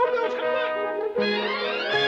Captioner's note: grand orchestral music; crowd cheering